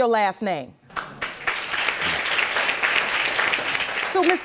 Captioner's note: audience clapping